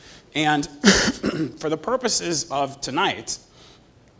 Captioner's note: cough